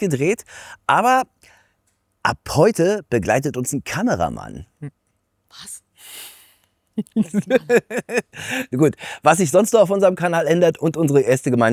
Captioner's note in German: gelächter